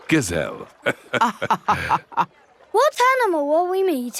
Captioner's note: both laughing